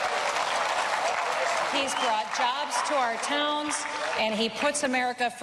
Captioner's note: cheering and applause